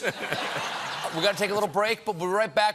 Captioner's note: laughter